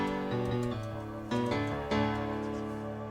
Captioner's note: keyboard typing